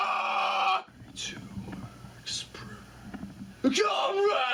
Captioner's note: whispering